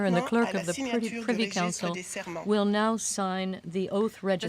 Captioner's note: speaking French